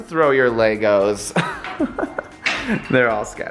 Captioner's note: laughs